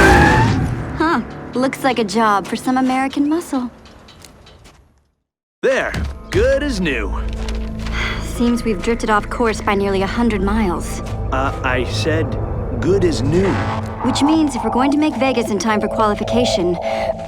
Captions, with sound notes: Look like a job for some American muscle... There! Good as new. (Sigh) seems we've drifted off course by nearly 100 miles Ugh... I said, 'Good as new'... Which means if we're going to make Vegas in time for Qualification...